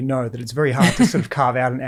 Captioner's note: Layne laughs